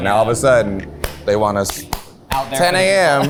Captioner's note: hands clapping